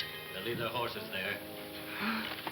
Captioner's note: Pancho gasps